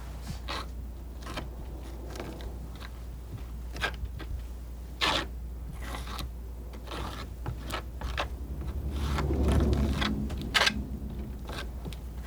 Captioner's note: scratching